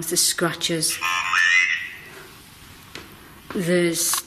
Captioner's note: OVILUS buzzing